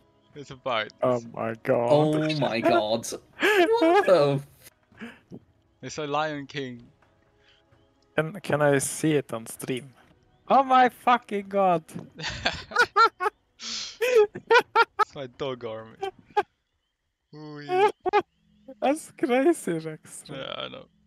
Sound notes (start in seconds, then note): 14.0 hahahahahaha